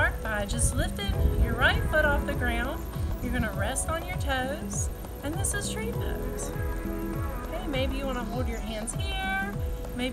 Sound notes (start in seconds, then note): none